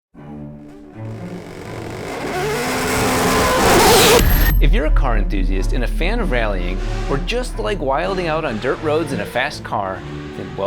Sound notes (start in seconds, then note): 0.2 orchestral music; 1.0 car engine revving